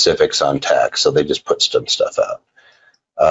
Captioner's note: murmurs